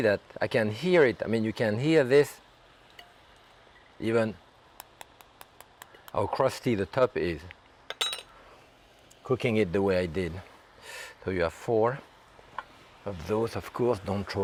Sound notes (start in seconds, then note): 4.8 tapping lightly